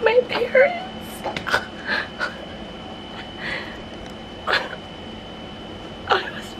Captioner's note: crying